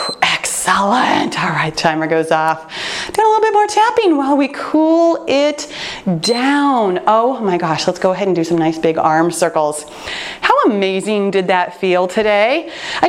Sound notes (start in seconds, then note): 0.0 timer beeps; 6.2 timer beeps